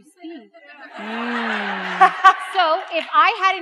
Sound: audience laughs

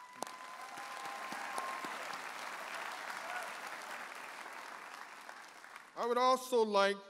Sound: audience applauding and cheering

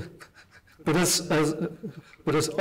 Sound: laughs

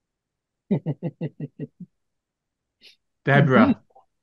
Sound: chuckling

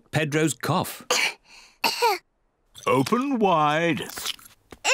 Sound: both cough

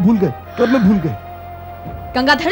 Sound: sighs

